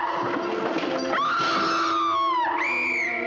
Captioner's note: screaming; blows whistle